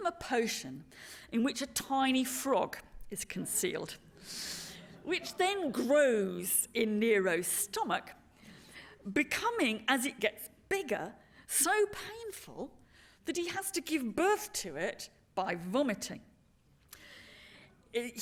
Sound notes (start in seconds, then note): 4.8 laughter